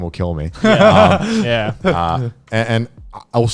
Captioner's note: laughing